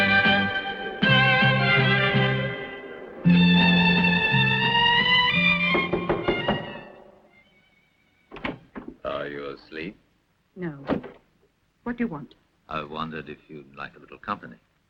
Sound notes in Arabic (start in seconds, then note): 5.3 بورتر يطرق الباب